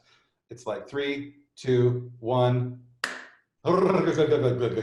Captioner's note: clap